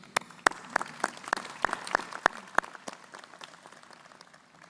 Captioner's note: crowd applauding